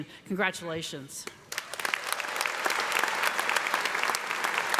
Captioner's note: applause